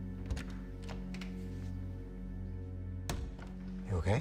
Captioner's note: door clicking